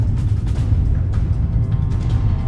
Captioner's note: low hum